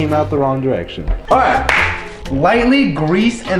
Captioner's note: claps